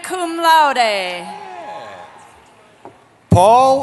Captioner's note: cheering